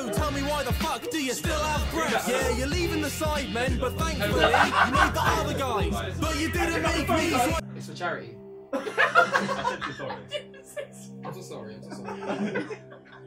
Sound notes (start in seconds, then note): 0.0 upbeat hiphop music; 8.7 all laughing